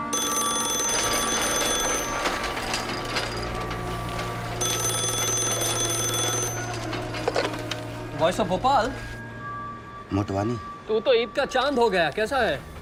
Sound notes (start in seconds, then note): 0.0 telephone ringing; 4.6 rings again